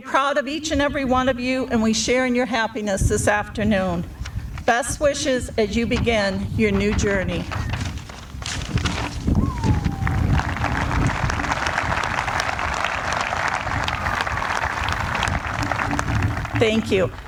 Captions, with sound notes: proud of each and every one of you, and we share in your happiness this afternoon. Best wishes as you begin your new journey. [APPLAUSE] Thank you.